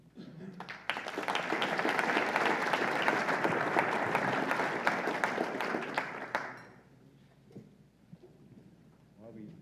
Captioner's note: applause